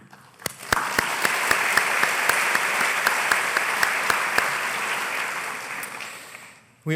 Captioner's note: applause